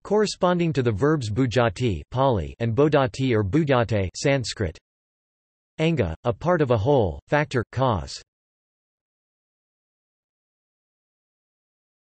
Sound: Pāli

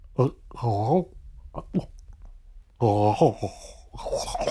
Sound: gurgling

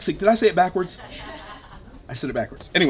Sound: crowd laughing

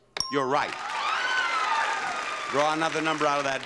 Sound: audience cheering

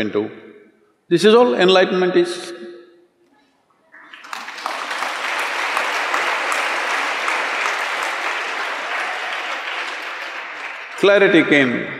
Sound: applause

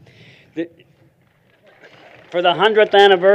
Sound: applause

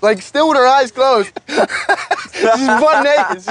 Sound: laughing

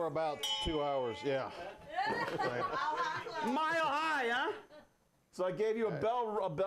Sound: bell rings

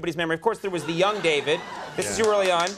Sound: audience cheers

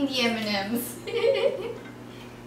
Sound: laughs

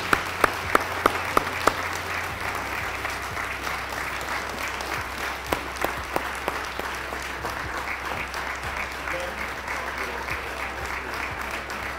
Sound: applause

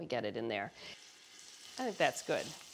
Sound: steak sizzling

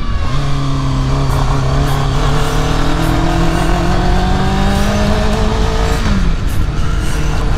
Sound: engine struggling

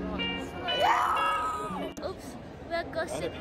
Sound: screaming

